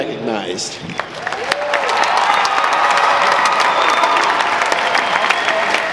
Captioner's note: audience applauding